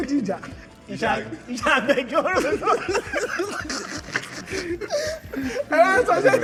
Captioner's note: laughs